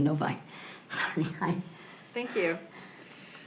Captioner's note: laughs